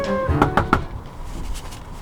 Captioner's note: knocks